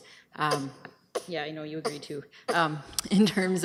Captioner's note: coughs